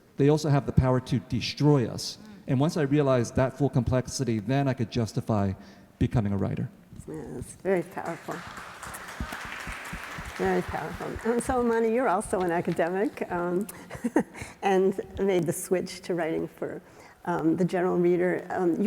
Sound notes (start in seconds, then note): 7.8 audience applauding